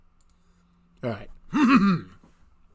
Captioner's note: ahem